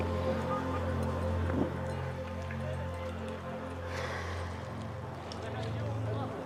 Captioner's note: gentle music continues; tourists chattering